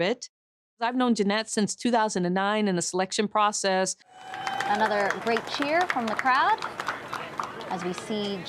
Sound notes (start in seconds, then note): 4.1 cheering